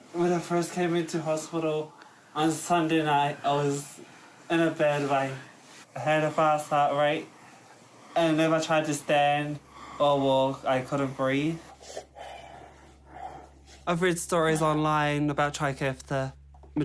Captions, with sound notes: When I first came in to hospital on Sunday night, I was in a bad way. I had a fast heart rate, and if I tried to stand or walk, I couldn't breathe. (LABOURED BREATHING) 'I've read stories online about TRIKAFTA.